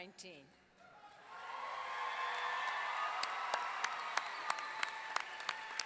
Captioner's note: audience clapping and cheering